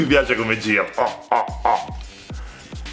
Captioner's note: monkey noises